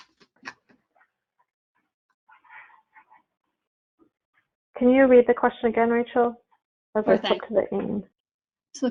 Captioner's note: silence